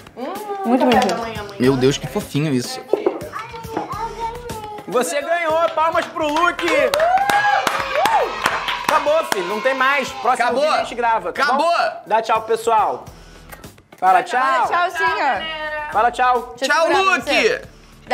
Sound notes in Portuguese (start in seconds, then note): 5.6 palmas